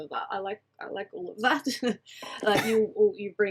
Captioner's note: laughs